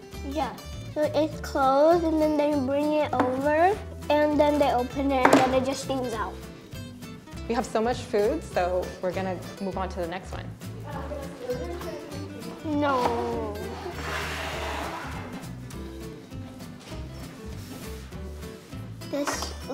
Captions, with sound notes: - Yeah. So it's close and then they bring it over and then they open it and then they just steam out. - No. (plate sliding) (upbeat instrumental music)